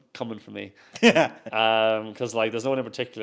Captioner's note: laughs